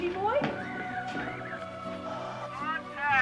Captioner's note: radio tuning